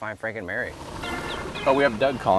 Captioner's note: boat engine revving; cellphone ringing